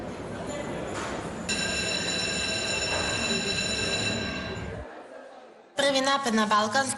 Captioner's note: school bell ringing